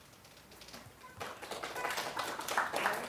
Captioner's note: applause